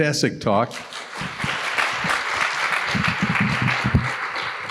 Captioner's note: applause